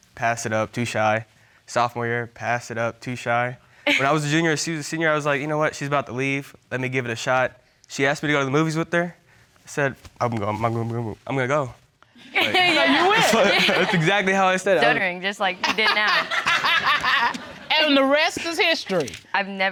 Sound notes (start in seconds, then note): 10.4 stuttering; 12.3 all laughing; 15.6 laughter